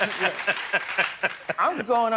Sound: laughter; applause

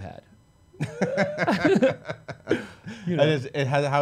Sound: laughing

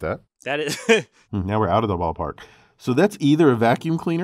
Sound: laugh

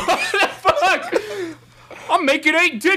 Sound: laughing

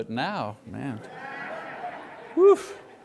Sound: congregation laughs

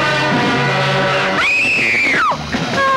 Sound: screaming

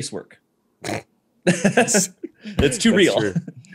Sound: laughter

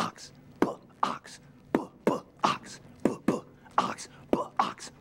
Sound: none

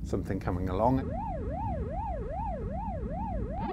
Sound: Pac-Man sounds

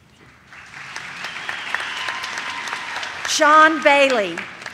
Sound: audience claps

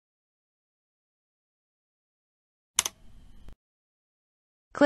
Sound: click sound

